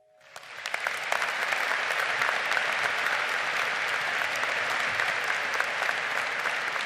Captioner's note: audience applauding